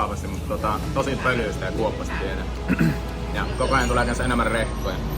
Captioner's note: clearing the throat